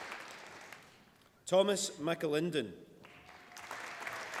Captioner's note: applause